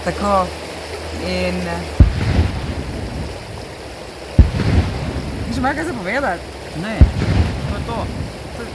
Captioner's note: cannon blasts